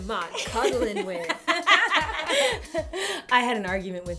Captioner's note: laughter